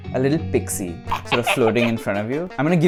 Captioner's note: sinister laugh